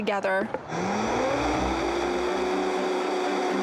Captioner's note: blender whirring